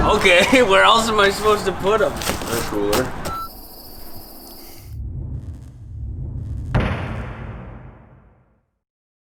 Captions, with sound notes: - Okay where else am I supposed to put them. - In a cooler. (beep) (swooshing) (slam)